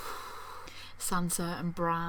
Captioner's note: sigh